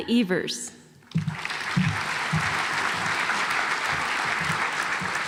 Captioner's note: audience applauds